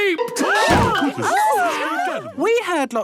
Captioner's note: all gasping